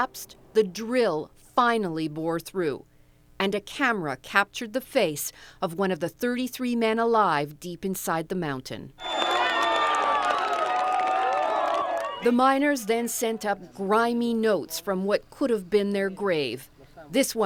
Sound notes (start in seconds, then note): 9.0 crowd cheers